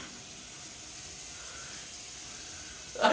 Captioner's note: water running